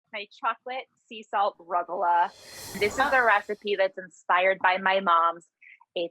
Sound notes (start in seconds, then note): 2.1 musical whoosh